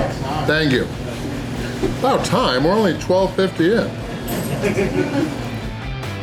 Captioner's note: crowd laughter